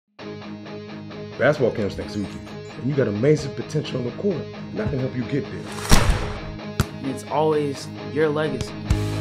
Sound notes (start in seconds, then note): 5.8 shplooom!